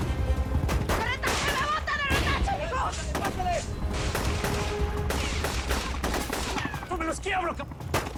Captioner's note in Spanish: Disparos; Gritos diversos y disparos